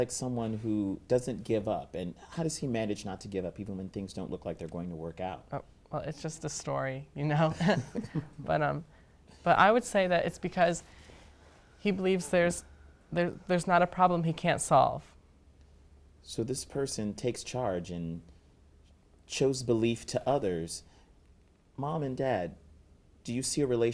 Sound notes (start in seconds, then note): 7.5 laughter